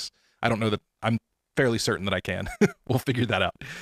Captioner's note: chuckling